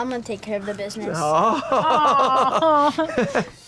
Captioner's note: laughs